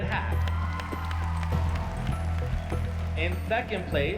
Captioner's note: cheers and applause